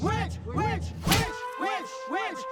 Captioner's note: sword thuds